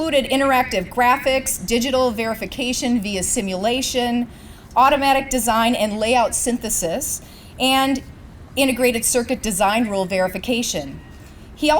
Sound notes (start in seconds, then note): none